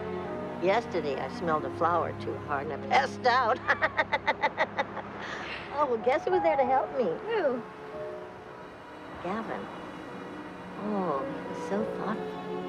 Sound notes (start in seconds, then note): 3.5 laughing